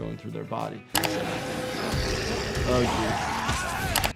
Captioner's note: zombie snarling